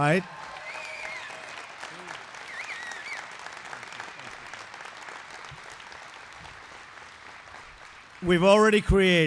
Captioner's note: applause